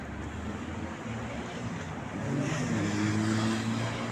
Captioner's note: street noise